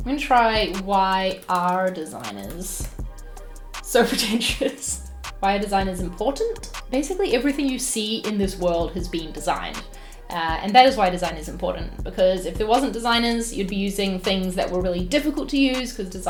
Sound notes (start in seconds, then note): 4.0 laughs